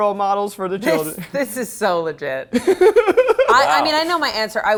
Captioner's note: laughs